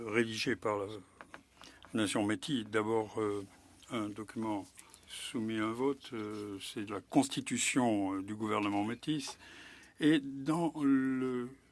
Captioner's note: speaking French